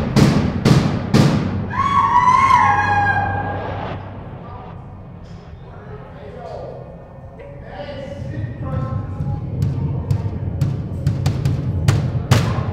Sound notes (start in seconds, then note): 1.7 howling and shrieking; 10.1 banging